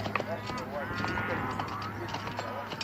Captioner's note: cattle mooing